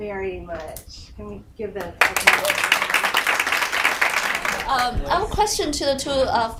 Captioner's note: audience applauding